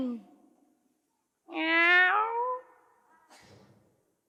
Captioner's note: meow!